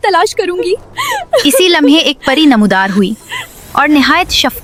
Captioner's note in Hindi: हंसी